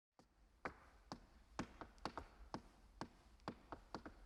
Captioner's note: shoes clacking